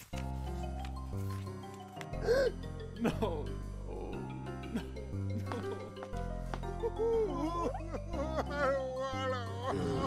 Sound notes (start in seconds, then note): 0.1 whimsical music; 2.2 gasps; 6.7 sobbing